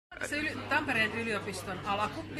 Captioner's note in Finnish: hälyä ja meteliä taustalla